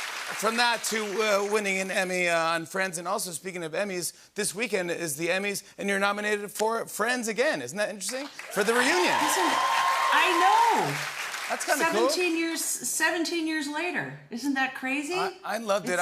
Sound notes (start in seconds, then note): 8.2 cheers and applause